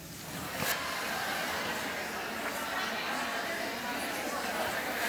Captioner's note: audience chatter